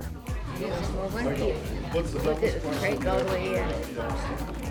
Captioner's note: people chattering